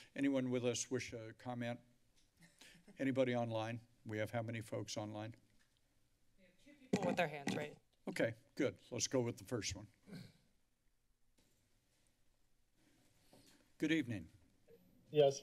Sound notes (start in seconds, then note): 2.4 laughter; 10.0 clearing throat